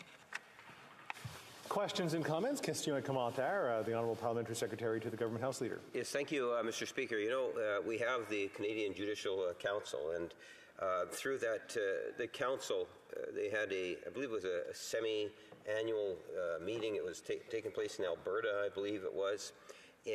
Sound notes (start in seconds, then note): 6.0 speaking French